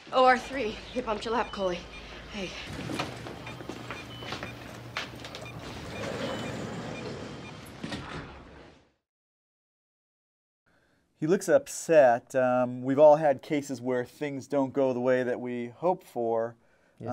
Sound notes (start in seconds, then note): 2.8 beeping